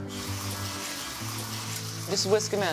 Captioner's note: whisking sound